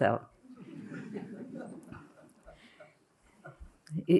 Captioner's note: laughter